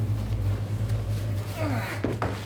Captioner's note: grunts